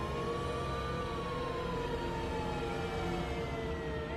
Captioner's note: sirens whirring